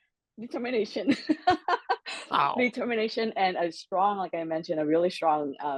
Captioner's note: laugh